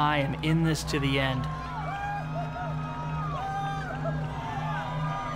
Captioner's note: cheering